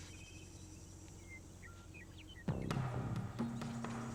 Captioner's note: birds chirping